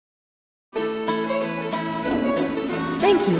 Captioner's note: country music; toilet flushes